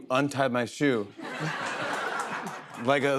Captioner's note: laughter